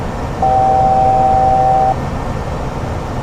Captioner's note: altitude alert